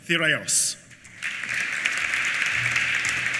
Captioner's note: applause